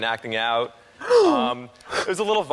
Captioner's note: gasps